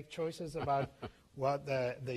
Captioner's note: laughter